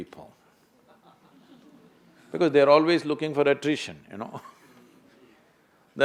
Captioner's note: laughs